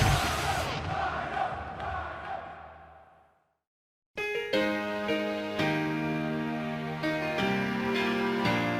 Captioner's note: fans chanting